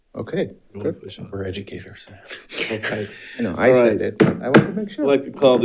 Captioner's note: laughs